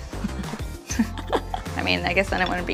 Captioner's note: laughing